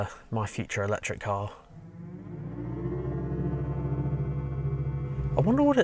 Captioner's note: car Revving